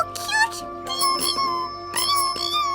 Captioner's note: ringing